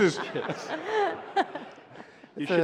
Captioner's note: laughter